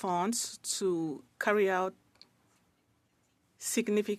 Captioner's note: speaking French